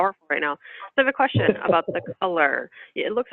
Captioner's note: laughter